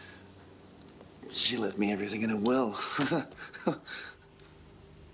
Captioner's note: laughs